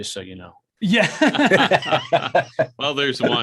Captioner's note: all laugh